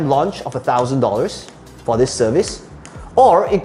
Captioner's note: tapping marker